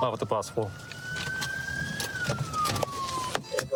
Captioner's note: sirens blaring